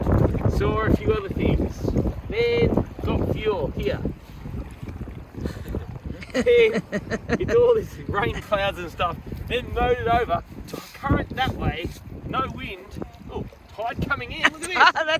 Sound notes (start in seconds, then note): 6.1 laughs